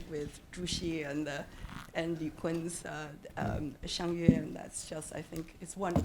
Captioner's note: speaking Chinese